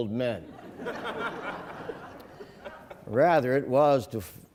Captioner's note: laughing